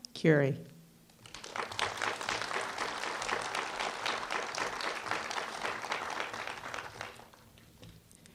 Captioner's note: applause